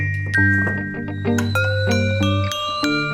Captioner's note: the kettle whistles